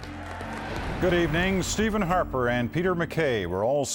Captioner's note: applause